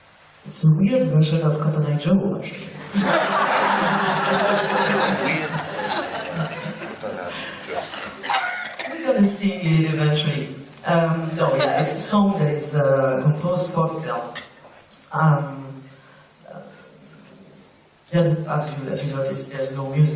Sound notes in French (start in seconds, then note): 2.9 rires